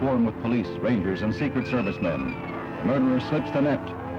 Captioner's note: people screaming